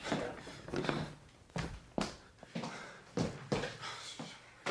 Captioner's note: footsteps